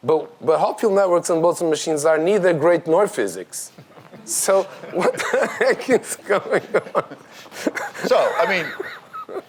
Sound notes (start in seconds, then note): 6.8 audience laughs